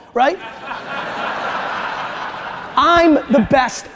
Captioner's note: audience laughter